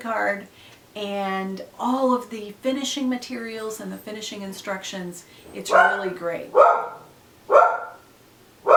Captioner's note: dog barking again